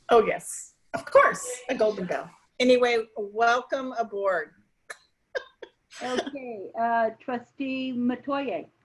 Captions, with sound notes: - Oh yes, of course, a golden bell. Anyway, welcome aboard. (laughing) - Okay trustee Metoyer.